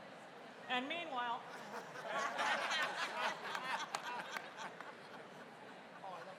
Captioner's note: laughter�